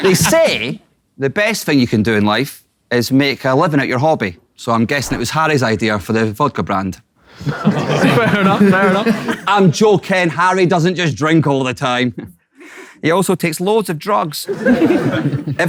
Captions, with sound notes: They say the best thing you can do in life is make a living at your hobby. So I'm guessing it was Harry's idea for the vodka brand. [people in room chuckling] - Fair enough, fair enough. - I'm joking, Harry doesn't just drink all the time. He also takes loads of drugs. [people in room chuckle]